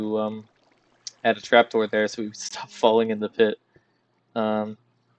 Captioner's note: laughs